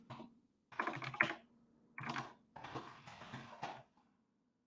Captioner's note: keyboard clicks